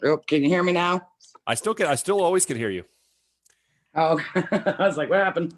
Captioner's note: laughs